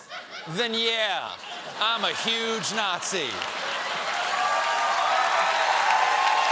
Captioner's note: cheers and applause